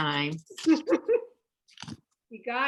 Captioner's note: laughter